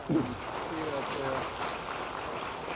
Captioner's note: applause